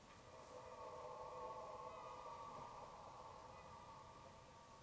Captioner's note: distant animalistic scream